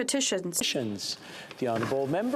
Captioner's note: speaking French